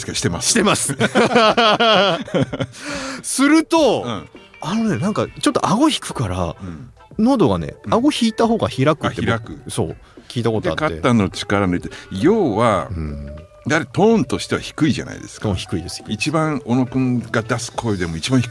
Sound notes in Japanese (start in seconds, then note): 0.6 笑い; 6.9 咳払い